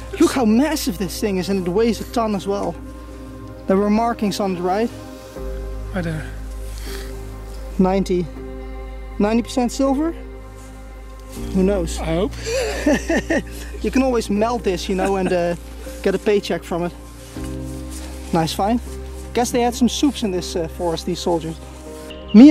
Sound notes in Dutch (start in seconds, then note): 14.9 lacht